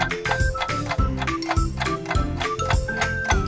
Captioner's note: clock ticking